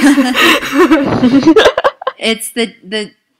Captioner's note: laughter